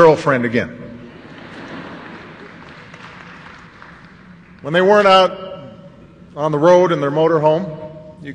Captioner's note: laughter